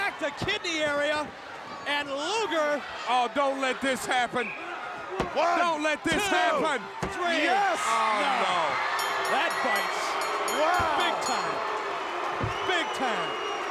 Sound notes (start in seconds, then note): 4.4 whistle blowing; 8.9 bell dinging; 11.9 crowd booing